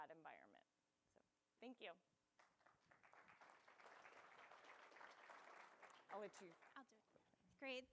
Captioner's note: applause